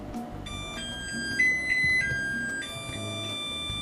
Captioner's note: washer beeping